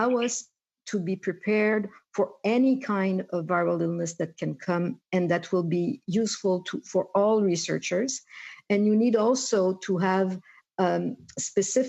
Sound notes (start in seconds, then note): 0.8 speaking French